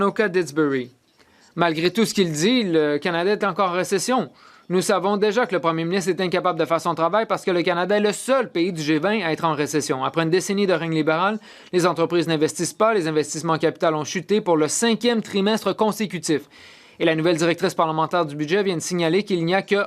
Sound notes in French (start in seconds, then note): 2.2 voix de l'interprète